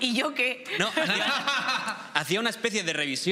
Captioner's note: laughter